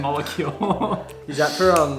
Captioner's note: giggles